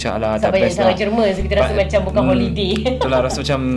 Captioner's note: laugh